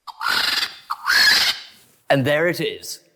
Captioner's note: mechanical vulture noise